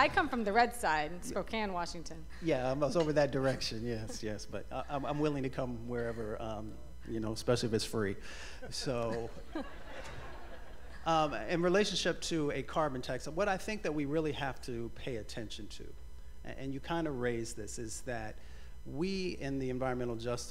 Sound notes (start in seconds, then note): 11.1 laughter